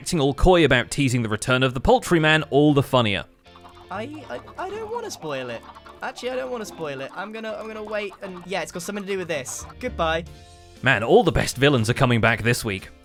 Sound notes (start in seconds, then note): 3.5 many chickens clucking